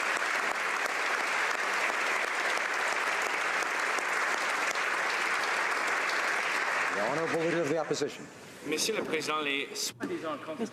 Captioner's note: applause